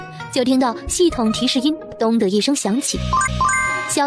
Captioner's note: dong